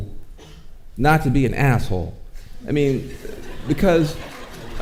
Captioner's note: audience laughing